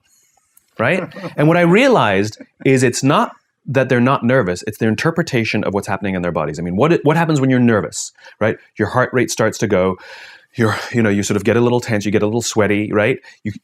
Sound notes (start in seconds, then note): 10.4 suspira